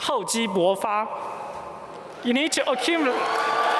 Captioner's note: foreign language; applause